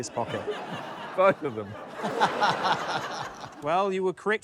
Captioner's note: laughter